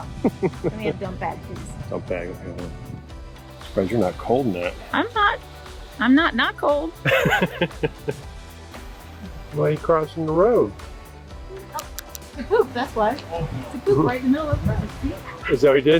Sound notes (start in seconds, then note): 7.0 laughing